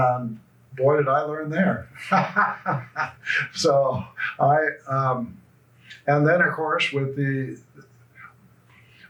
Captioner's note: laughs